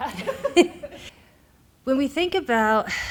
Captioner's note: laughs